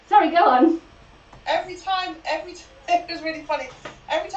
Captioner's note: laughs